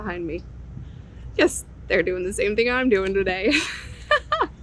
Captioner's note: laughing